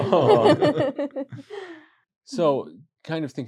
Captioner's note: laughter